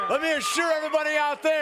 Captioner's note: crowd cheering